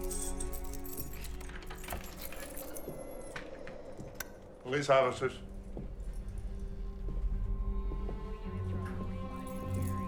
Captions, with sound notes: (keys jangling) (suspenseful music) (door latch clicks) (light switch clicks) - Police officers. (suspenseful music)